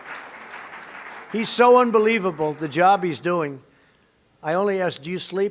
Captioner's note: applause